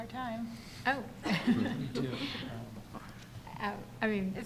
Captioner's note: chuckles